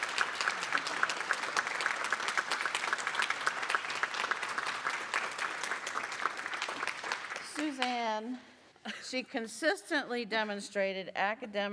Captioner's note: applause